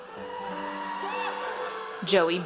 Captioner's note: audience cheers